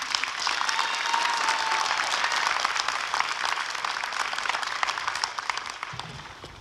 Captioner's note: applause and cheering